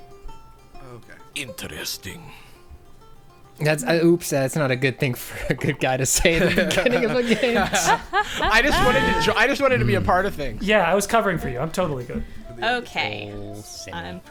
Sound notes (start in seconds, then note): 4.1 pat; 7.6 players laughing